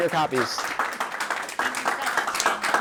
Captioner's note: audience applauding